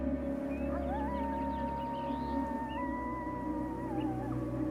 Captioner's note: coyote howling